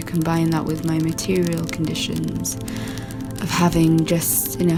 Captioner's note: sound of fingernails lightly tapping a surface